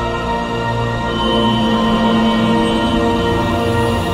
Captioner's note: buzzing